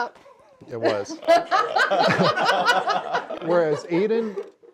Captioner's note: laugh